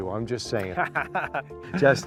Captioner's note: laughter